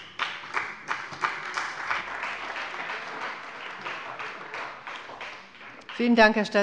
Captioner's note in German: Beifall bei der CDU und dem BÜNDNIS 90/DIE GRÜNEN